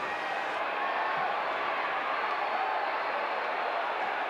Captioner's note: audience cheering